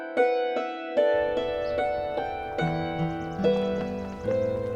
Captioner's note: birds chirping